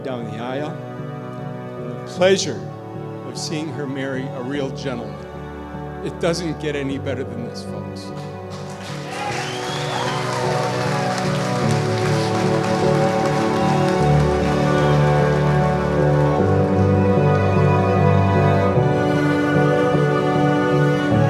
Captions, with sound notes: down the aisle, and the pleasure of seeing her marry a real gentleman. It doesn't get any better than this, folks. (guests applaud) (light music)